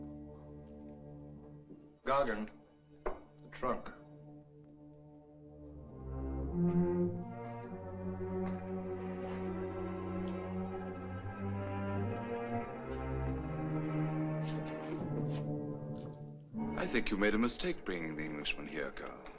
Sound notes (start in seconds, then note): none